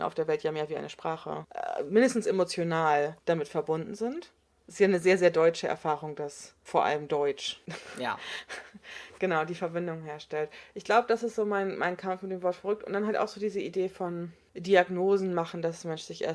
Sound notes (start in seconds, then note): 7.7 laughs